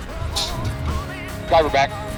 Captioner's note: cannon blasts